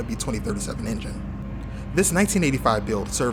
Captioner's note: engine buzz saw hum